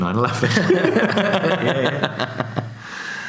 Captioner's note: laughs